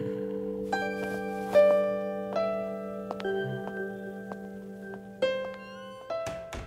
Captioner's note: Footsteps